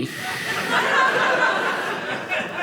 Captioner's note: audience laughing